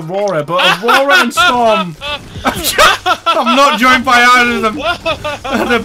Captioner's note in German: lacht im Hintergrund